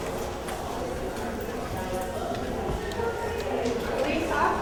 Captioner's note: indistinct background chatter